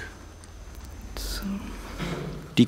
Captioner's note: quietly